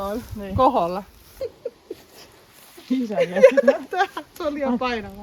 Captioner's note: laughs